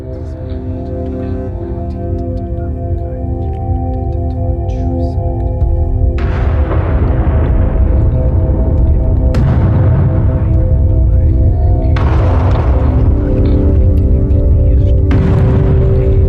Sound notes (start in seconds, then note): 0.3 dramatic music; 3.2 speaker whispering; 6.4 intense music; 11.0 ominous music; 11.0 speaker whispering